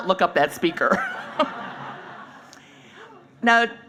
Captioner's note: laughing